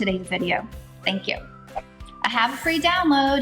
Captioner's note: wind whooshing